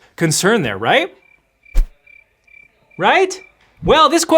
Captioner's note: crickets chirping